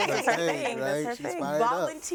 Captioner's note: woman chuckles